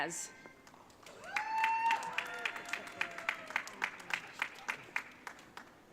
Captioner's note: audience cheering